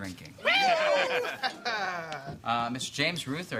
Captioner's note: cheering